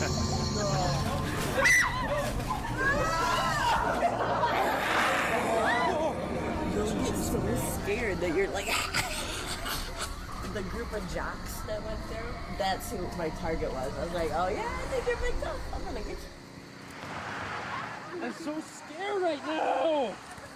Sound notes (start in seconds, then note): 1.5 screams; 4.1 roaring; 4.5 woman screams; 8.6 screams, couching